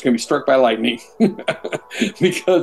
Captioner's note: laughs